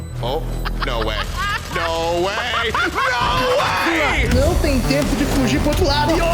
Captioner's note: intense laughter